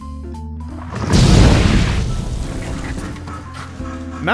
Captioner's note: kaboom